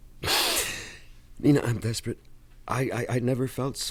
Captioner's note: inhales sharply